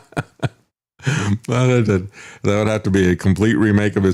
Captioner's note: laughs